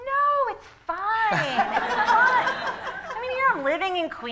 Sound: laughter

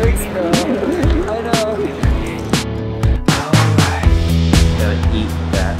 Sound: laughs

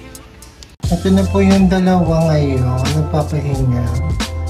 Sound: none

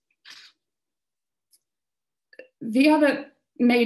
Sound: camera shutters

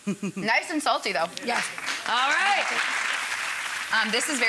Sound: audience claps

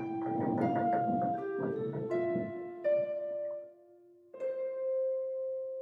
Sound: piano music playing; curtains creaking

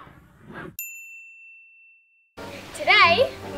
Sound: bell dings

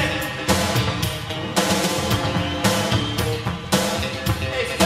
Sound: upbeat music; crowd claps

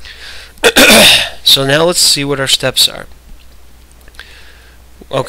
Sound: coughs

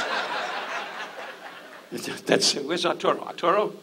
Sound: audience laughs

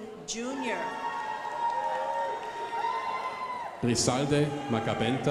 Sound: crowd applauding

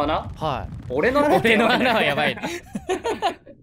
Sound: laughs

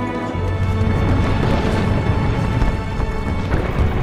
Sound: bombs explode

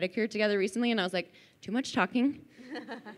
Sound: laughing

